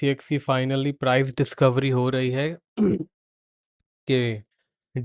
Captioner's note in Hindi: गला साफ़ करने की आवाज़